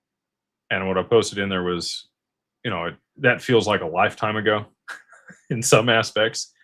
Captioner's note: laughter